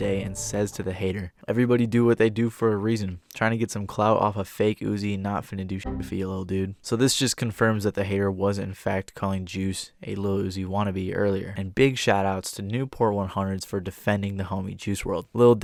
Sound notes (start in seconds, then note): 5.8 beep